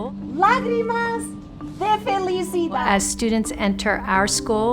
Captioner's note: speaking in foreign language